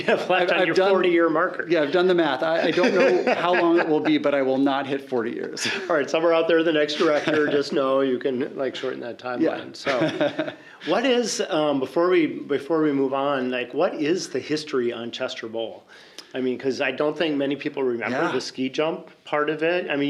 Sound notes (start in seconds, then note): 5.3 laughing